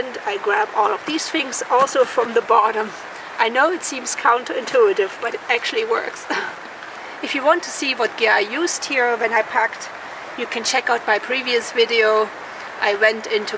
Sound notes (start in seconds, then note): 6.2 laughs